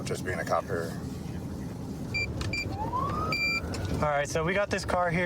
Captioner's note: buttons beeping